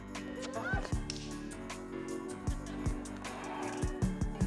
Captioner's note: group chattering